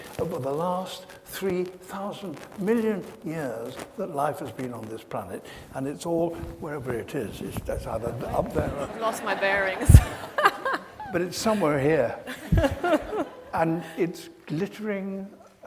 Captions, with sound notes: over the last three thousand million years that life has been on this planet. And it's all wherever it is, it's either up there, or - I've lost my bearings. (laughs) (audience laughs) - But it's somewhere here, and it's glittering